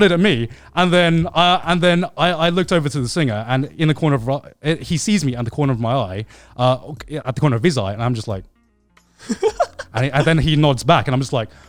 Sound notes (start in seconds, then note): 9.2 laughing